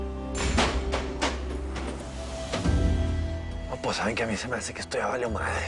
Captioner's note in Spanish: Golpes